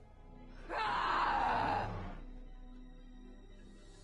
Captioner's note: monstrous roaring